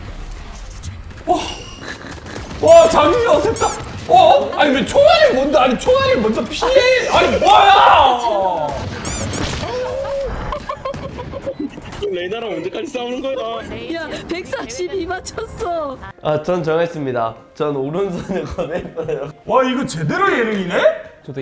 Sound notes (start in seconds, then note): 1.3 sigh; 3.8 crowd losing it over the flashy aim